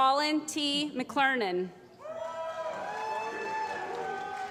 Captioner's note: applause